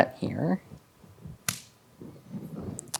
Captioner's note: slaps hand